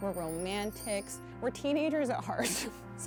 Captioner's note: chimes